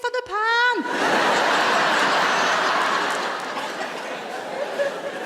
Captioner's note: audience laughs